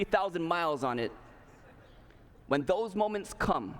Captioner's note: laughter